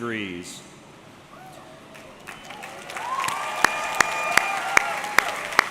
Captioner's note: audience clapping